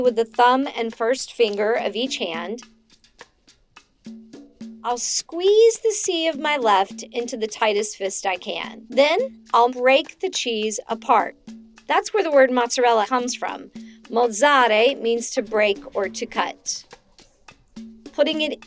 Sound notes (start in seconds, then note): 15.0 speaks in foreign language